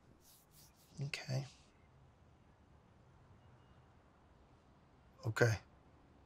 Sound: none

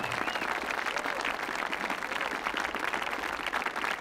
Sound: audience clapping

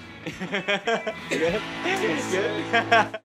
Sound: laughing

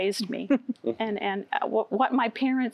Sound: giggling

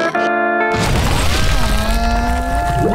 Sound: groaning

